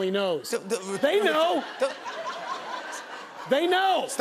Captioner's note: laughter